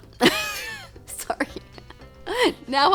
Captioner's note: laughs